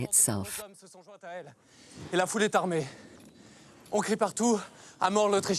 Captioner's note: man speaking in French